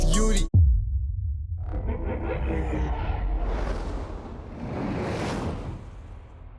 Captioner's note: title card music; sound effects